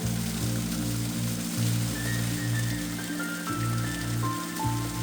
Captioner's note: water splashing; water running